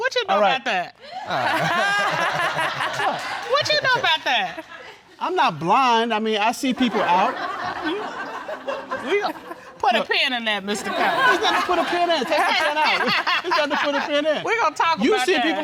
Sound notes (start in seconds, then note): 1.2 all laughing